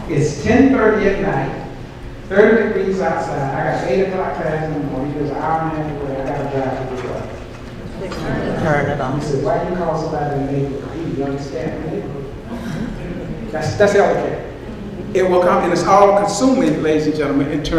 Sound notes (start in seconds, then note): 5.5 microphone distorts